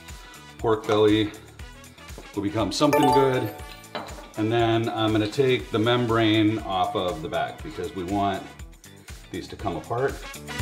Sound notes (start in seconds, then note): 2.9 electronic bell ringing